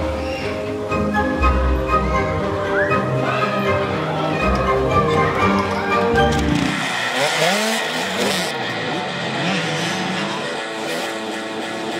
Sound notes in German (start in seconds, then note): 6.5 Motordröhnen